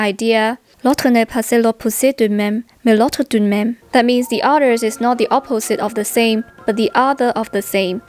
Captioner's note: French